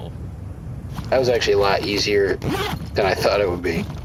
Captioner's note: unzipping bag and filling out paperwork